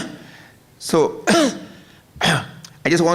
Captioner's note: coughs